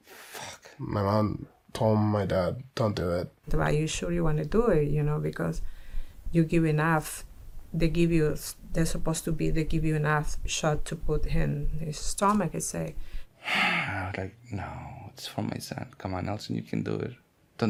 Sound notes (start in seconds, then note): 13.4 sighs